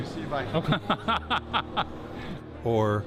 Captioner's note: Gülme